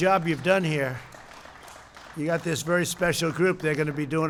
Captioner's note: applause